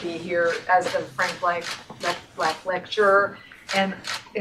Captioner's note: camera clicks